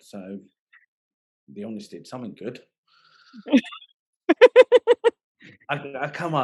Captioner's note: laughing